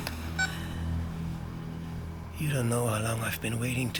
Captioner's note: camera beeps